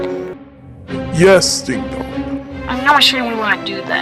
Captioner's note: with a "cool evil" voice